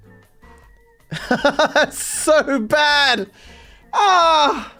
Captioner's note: laughing